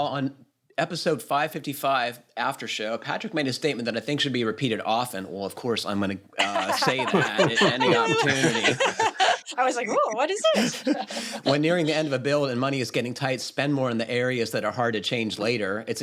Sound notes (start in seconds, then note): 8.3 laughter